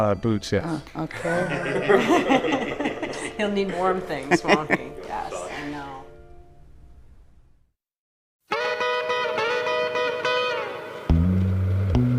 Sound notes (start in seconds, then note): 1.1 all laughing; 8.5 lively music